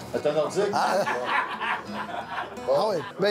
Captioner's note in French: rires